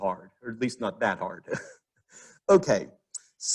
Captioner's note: laughs